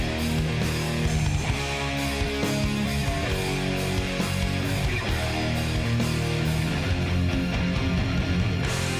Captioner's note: none